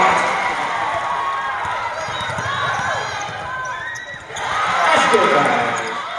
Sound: crowd Cheers

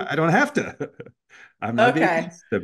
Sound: laugh

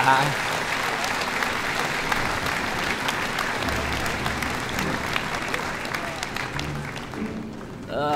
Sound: applause

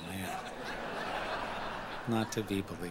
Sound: audience laughing

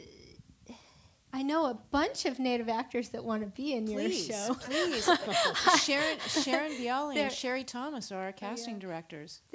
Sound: laughter

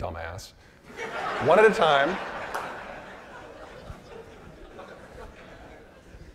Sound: audience laughing

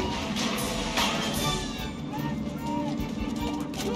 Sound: police siren

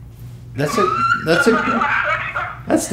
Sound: hysterical Laughter

